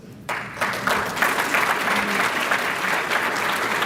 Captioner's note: applause